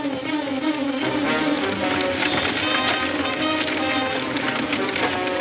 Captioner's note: wagons clamoring